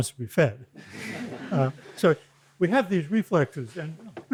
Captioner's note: laughter